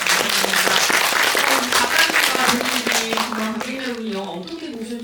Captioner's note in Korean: 박수